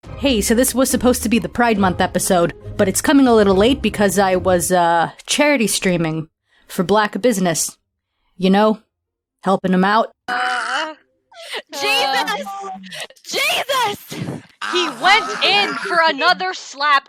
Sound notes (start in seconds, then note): 10.2 groaning